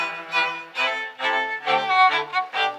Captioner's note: none